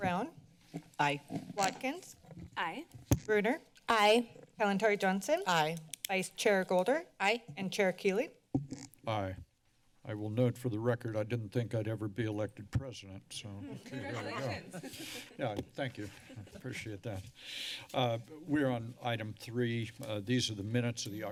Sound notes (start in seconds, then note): 13.6 laughter; 17.7 sigh